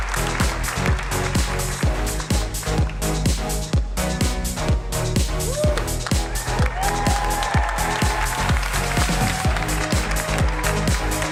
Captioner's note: applause